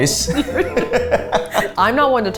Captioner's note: laughing